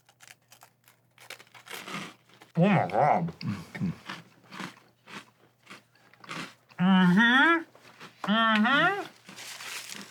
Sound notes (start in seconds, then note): 4.8 pensive crunching